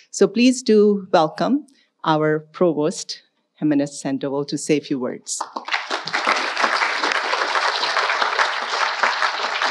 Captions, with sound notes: So, please do welcome our Provost, Jimenez-Sandoval, to say a few words. (audience applauding)